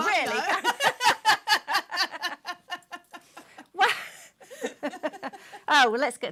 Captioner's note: laughter